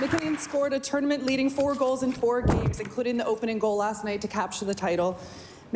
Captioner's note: cheering and Applause